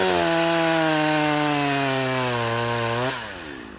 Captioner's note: chainsaw whirs